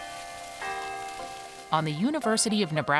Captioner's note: bell tolls